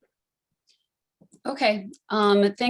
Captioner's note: hablando inglés